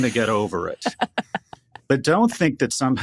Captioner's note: laughing